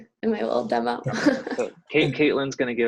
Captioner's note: laughter